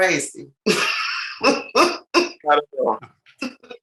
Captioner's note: laughs